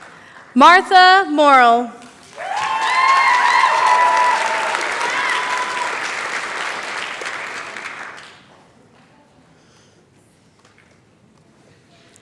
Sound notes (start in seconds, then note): 2.1 cheering, applause